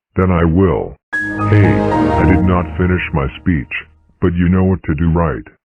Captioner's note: Windows XP Shutdown